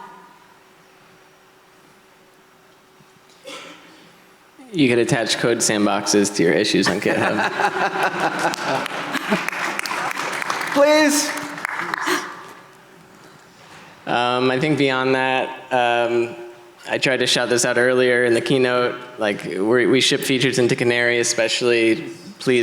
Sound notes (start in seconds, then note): 6.8 audience laughing